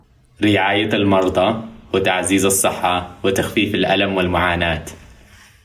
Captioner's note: speaks in foreign language